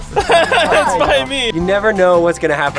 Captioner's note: laughs